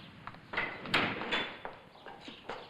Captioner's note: footsteps; door opens